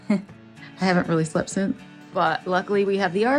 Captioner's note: chuckles